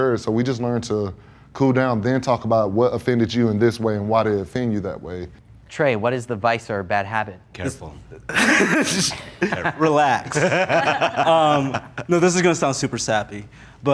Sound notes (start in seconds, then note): 8.2 laughs